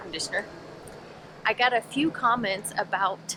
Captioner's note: air conditioner buzzing